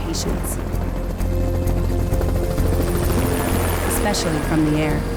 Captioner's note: helicopter blades whirring